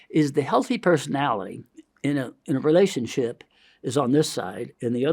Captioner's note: none